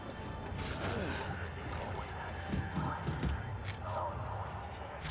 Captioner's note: grunting